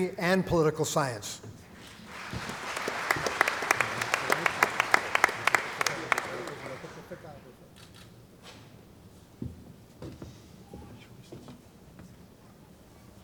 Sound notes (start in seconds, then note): 1.8 applause